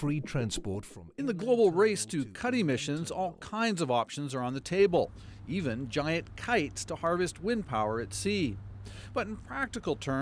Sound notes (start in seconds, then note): none